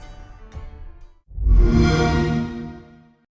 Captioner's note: xbox sound